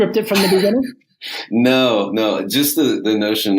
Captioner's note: laughs